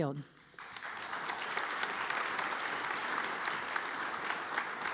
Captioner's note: audience applauds